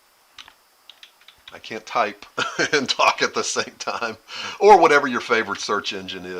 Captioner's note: laughter